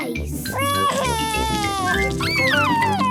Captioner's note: crying